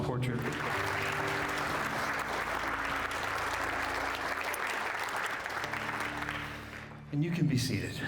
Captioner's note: applause